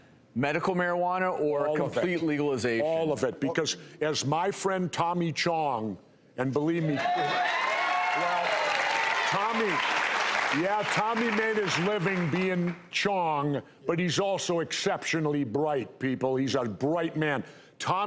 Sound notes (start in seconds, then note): 6.9 audience cheers